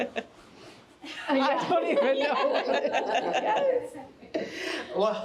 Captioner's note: all laughing